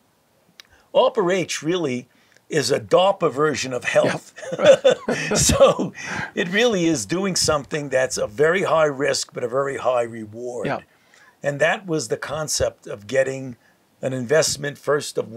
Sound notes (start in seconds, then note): 3.8 laughs